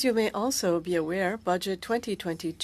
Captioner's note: speaking French